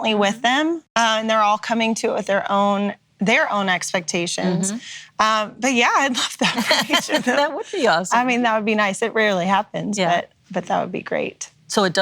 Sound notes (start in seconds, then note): 7.9 laughs